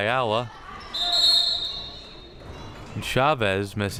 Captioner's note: whistle chirping